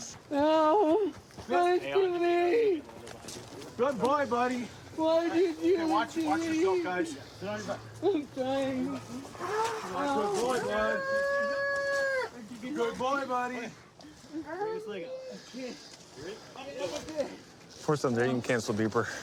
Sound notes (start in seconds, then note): 11.0 wails